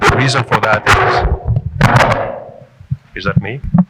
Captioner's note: loud screeching